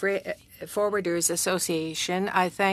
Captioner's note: speaking French